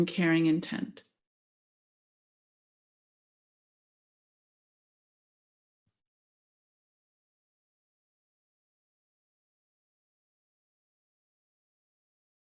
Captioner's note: silence